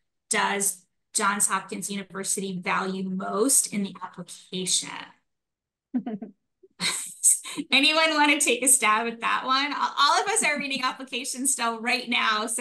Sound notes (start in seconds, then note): 5.9 chuckles